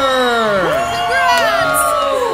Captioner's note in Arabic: تصفيق الجماهير